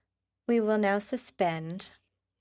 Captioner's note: speaking French